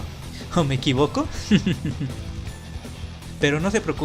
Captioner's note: chuckles